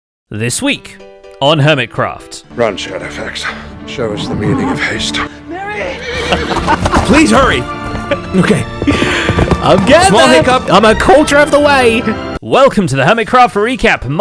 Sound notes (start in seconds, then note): 5.8 laughs